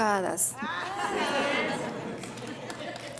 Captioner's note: audience laughing and clapping